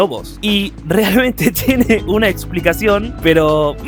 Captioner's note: laughs